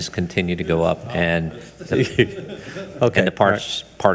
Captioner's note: speaks distantly